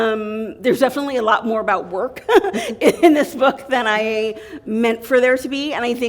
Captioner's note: chuckle